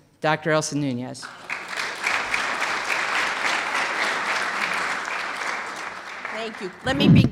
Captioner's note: clapping